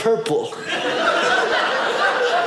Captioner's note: audience laughing